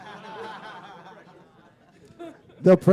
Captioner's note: laughter